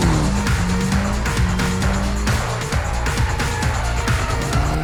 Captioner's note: engine revs